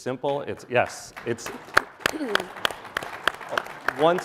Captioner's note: audience applauding